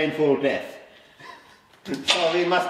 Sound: quiet chuckling

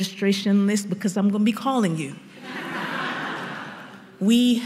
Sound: laughter

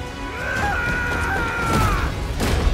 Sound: Cole shouts

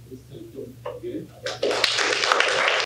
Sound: applause

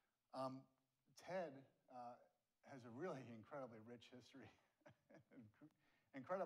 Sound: laughs

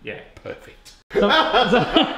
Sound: laughs

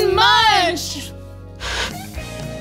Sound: Static

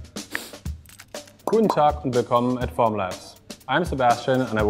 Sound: foreign language

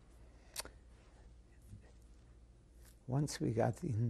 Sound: pauses for 3 seconds

